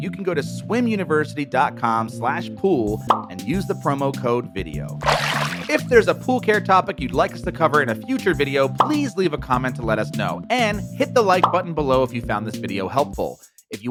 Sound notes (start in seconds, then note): 5.0 water splashes